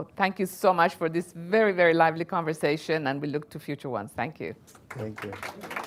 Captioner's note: applause